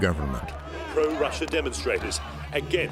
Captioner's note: chanting